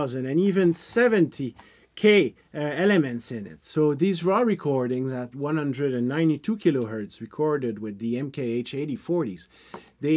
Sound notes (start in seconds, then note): none